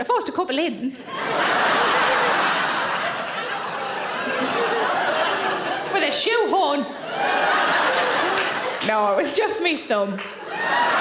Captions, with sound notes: I forced a couple in, (audience laughing) with a shoe horn. No, it was just me thumb.